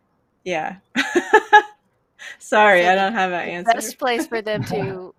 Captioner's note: laughs